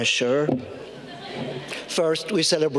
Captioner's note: audience laughing